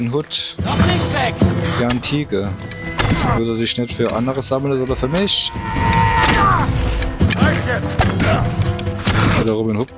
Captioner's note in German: schreien